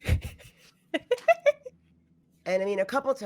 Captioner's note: laughs